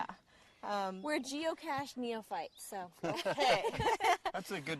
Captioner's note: laughs